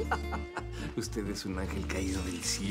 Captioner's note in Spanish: Carcajadas